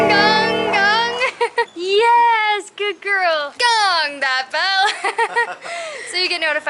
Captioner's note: laughter; laughter